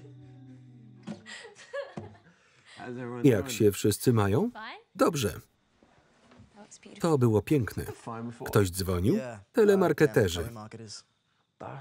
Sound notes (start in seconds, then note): 1.2 laughter